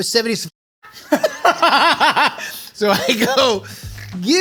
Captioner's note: laughs